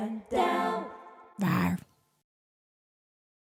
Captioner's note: logo growls